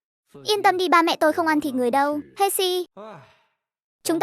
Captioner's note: sigh